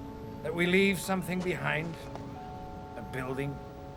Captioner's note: none